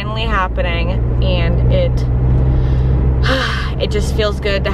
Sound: sigh of relief

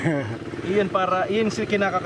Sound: chuckles

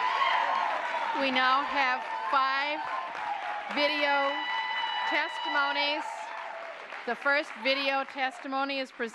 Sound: applause

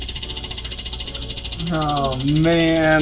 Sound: wheel spinning

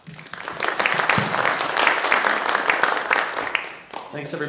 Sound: audience clapping

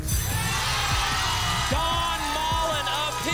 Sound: audience applause

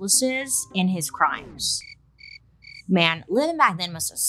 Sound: music whooshing; crickets chirping

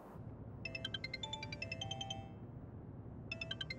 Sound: phone ringing

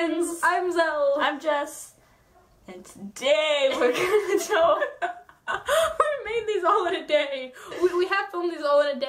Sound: laughs

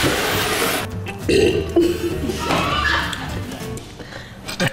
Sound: belches

